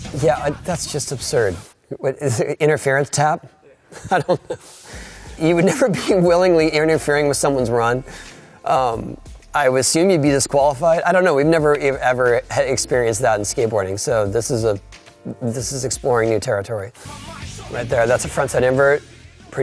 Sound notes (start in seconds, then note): 3.8 laughing